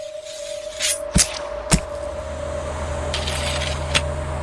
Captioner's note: eerie music; knife slicing